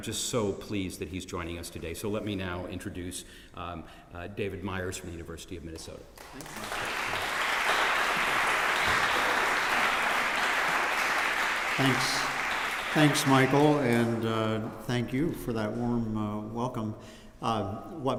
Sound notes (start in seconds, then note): 6.1 applause